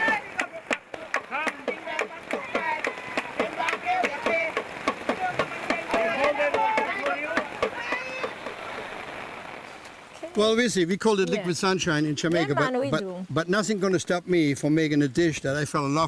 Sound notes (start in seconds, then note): 0.0 drums; 2.3 chanting; 3.8 clapping